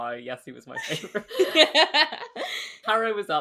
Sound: laughs

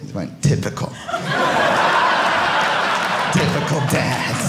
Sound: audience laughing

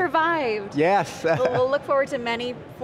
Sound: laughs

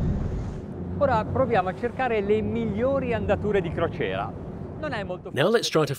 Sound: speaking in Italian

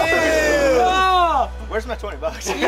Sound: disgusted screaming

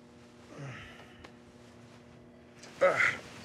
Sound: Rufus groans; grunts

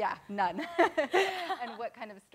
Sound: laughing

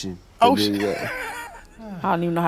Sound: laughs

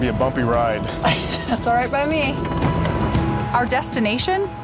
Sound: laughs

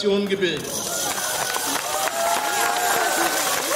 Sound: cheers and applause

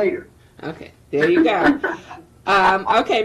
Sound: laughing

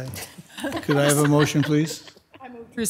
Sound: members softly laughing

